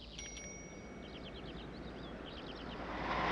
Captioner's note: bicycle bell chimes